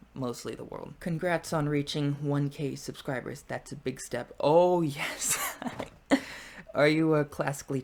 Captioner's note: laughs